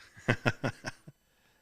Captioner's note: laughing